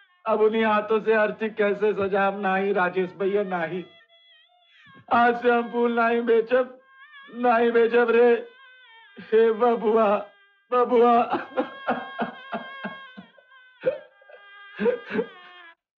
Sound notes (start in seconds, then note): 11.8 crying